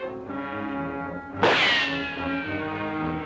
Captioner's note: gunshot